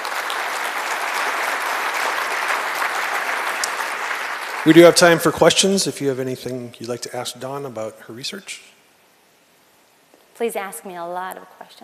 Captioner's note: applause